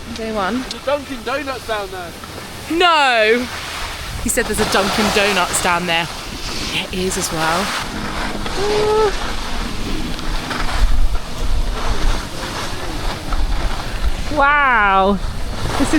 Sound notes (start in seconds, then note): 10.9 skis scrape